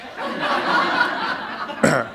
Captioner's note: laughter